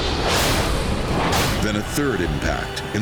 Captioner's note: plane crashes